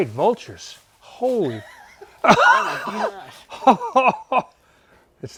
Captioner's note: laughing